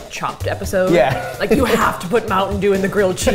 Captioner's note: laughs